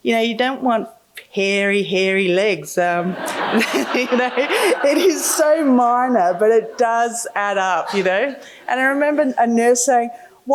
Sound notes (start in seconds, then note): 3.1 laughing